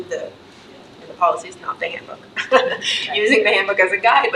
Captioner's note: laughs